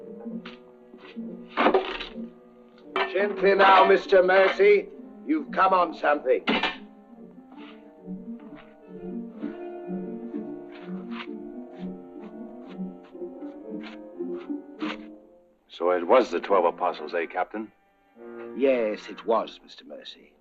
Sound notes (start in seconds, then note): 2.9 metal clanging; 8.8 dramatic orchestral music